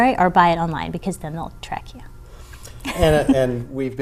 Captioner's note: laughing